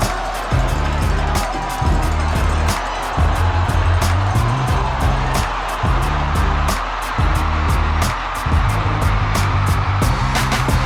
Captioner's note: crowd cheering